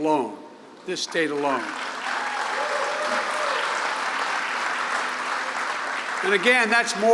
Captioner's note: applause